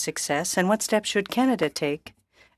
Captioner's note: speaking French